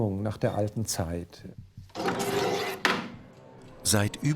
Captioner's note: metal cutting